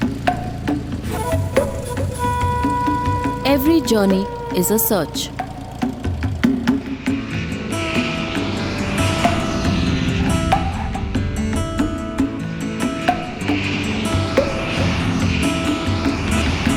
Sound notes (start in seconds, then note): 0.0 upbeat music; 5.5 airplane returns to the ground; 5.5 upbeat music